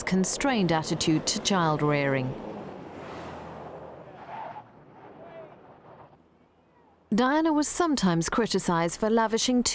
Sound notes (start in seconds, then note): 3.3 engines whirring; 3.3 tires screeching